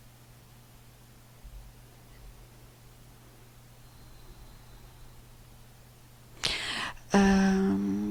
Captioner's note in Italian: sospiri